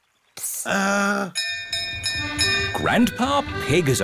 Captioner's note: bell rings